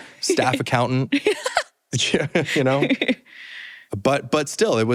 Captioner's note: laughter